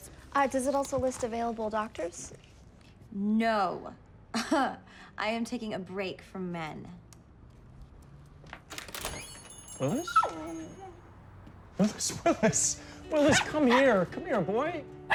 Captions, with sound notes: DOES IT ALSO LIST AVAILABLE DOCTORS? NO! [LAUGHS] I AM TAKING A BREAK FROM MEN. [JINGLING] WILLIS? -[LAUGHS]: WILLIS! -[PUFFY YAPPING] WILLIS, COME HERE! COME HERE, BOY.